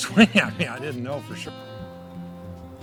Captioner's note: giggling